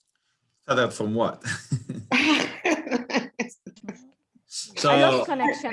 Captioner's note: laughter